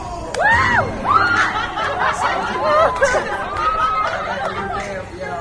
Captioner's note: audience cheers and laughter